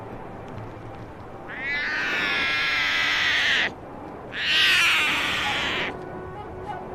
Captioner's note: the calls of the snow leopard cub